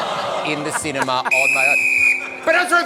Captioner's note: laughter and groaning; blows whistle